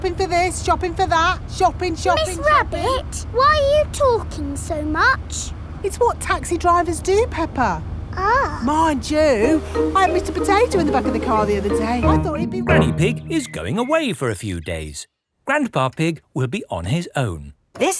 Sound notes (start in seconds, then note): none